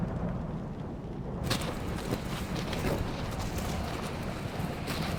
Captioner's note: snow crunching